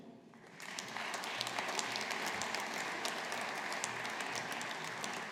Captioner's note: audience applauding